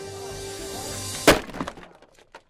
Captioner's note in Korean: 나무 부서지는 소리